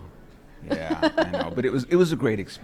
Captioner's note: laughing